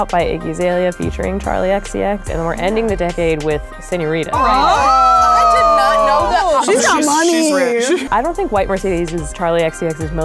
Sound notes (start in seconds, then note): 4.3 girls exclaiming